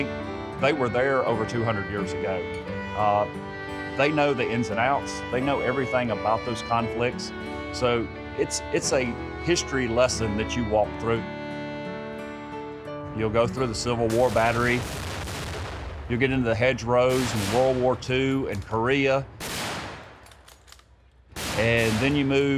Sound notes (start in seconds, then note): 14.1 cannon blasting; 19.7 gunshots firing